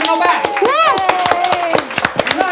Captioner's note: clapping and cheering